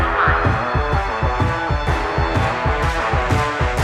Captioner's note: siren rings